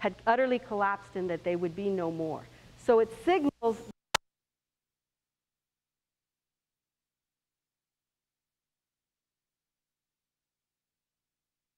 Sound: sound cuts out

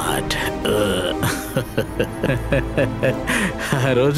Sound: laughs

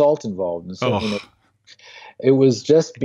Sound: groans

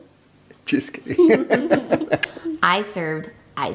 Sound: laughs

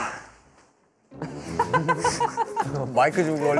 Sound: rustle rustle

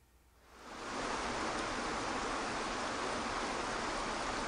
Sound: waterfall rushing

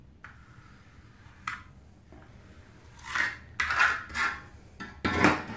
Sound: trowel clicks and scrapes

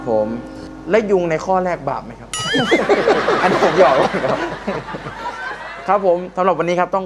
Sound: laughing

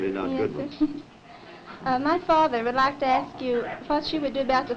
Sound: laughter

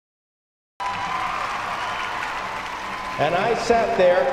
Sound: cheers

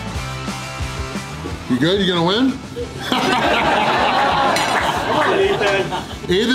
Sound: laughter

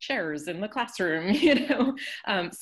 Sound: laughs

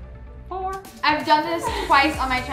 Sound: laughs

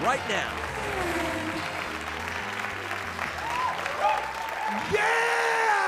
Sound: applause

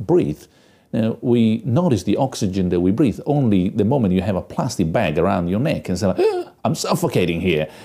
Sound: gasps

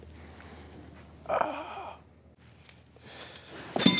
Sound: grunts

